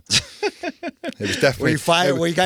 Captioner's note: laughing